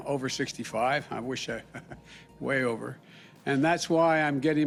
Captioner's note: laughs